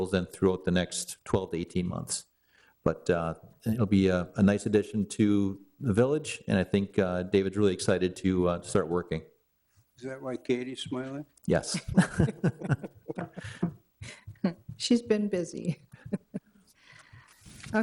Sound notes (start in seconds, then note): 11.7 laughter; 16.7 chuckle